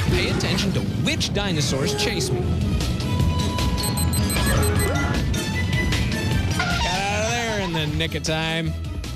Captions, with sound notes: PAY ATTENTION TO WHICH DINOSAURS CHASE ME. [beeping] GOT OUT OF THERE IN THE NICK OF TIME.